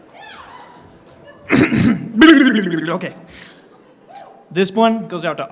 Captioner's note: clears throat